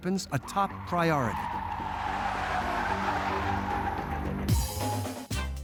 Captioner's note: screeches